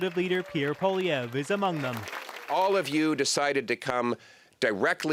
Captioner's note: applause